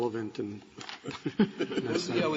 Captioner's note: laughter